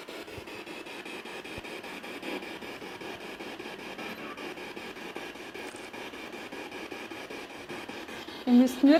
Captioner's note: noise of the spiritbox in the background